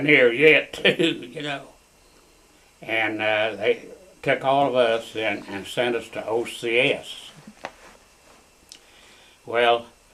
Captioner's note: laughs